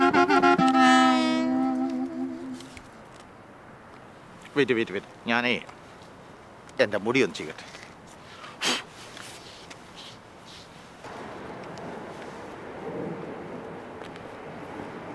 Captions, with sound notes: Wait, wait. Let me... Let me comb my hair. [blows]